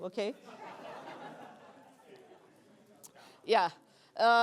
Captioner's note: laughter